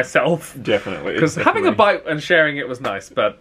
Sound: laughs

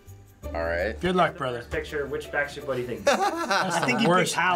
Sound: laughs

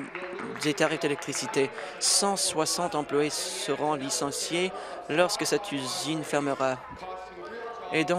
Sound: applause

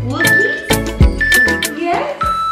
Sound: countdown timer beeping

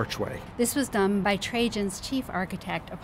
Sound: voiceover

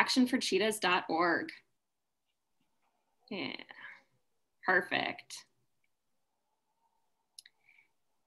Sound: silent

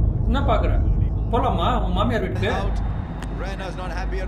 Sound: in mocking slang

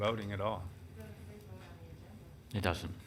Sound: woman speaks softly

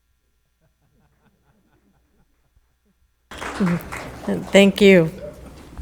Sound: the board laughing

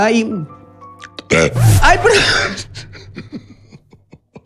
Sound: loud burp

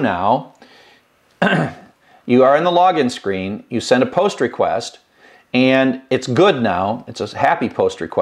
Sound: cough

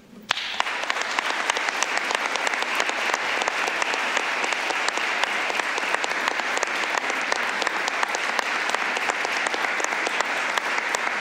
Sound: applause

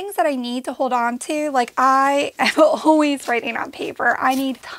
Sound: laughing

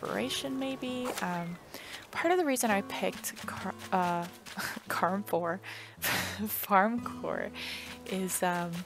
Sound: laugh

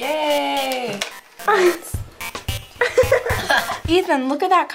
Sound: laughing

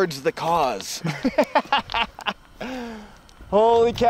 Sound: laughs

